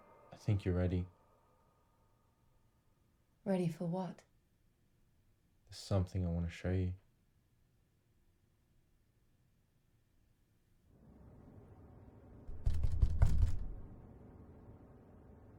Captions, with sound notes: I think you're ready. Ready for what? There's something I want to show you. [hard knocking]